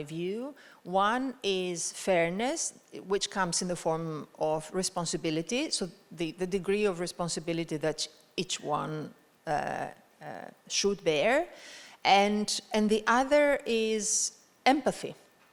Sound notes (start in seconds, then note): none